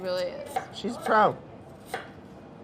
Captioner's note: knife chopping